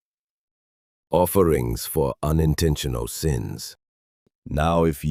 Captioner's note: thoughtful